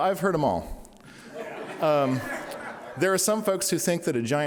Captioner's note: audience laughing